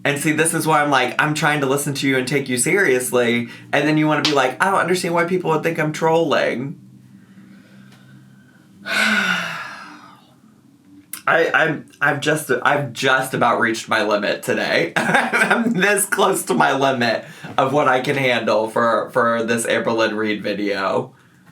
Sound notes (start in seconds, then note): 8.8 sighs